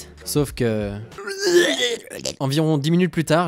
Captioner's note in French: vomissements